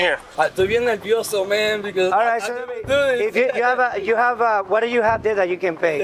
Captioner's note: speaking Spanish